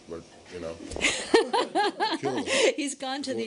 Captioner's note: laughter